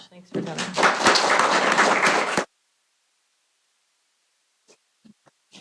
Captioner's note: applause